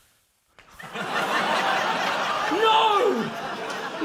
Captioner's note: laughter